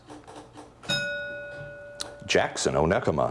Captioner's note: bell ringing